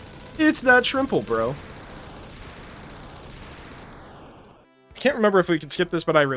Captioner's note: Death Egg Exploding